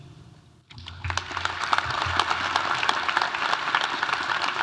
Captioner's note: audience applauding